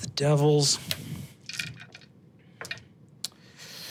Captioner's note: dice rolling